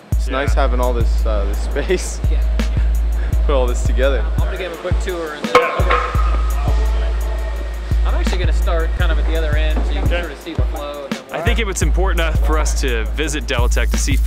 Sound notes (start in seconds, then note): 5.5 sound: hammering